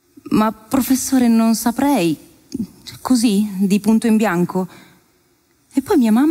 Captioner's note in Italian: voce di donna fuori campo